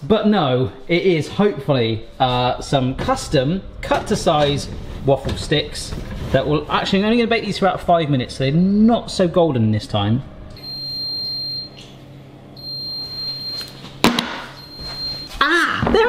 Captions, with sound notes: but no, it is hopefully some custom cut to size waffle sticks. Actually I'm only gonna bake these for about five minutes, so they're not so golden this time, (oven bleeps) (banging)